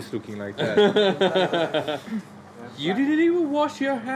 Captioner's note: everyone laughs